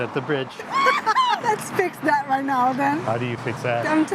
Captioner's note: laughing